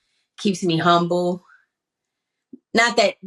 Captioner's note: none